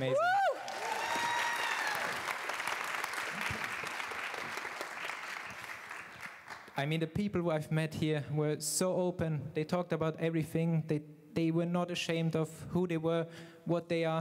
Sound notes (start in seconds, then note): 5.0 applause